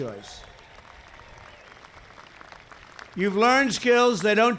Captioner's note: applause